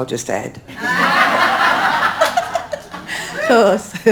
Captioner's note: audience laughing